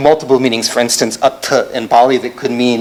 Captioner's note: non-english